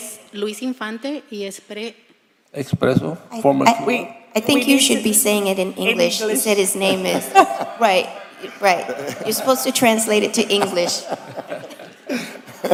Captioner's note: speaking foreign language